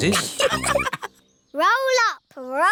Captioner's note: all laughing